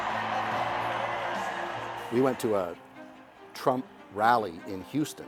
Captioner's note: crowd cheering